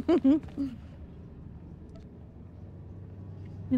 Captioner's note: laughter